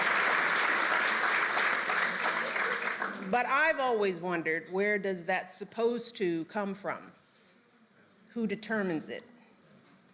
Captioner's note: applause